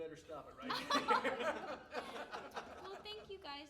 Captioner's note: all laughing